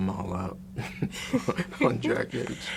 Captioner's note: both laugh